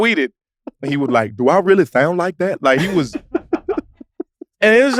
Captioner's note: group laughs